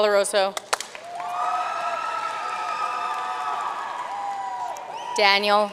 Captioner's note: audience cheering and applauding